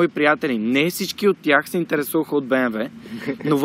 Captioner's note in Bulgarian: се засмива